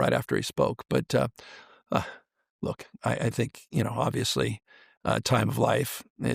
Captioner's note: sighs